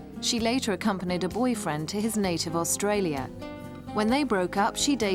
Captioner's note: none